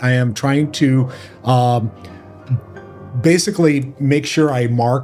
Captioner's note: none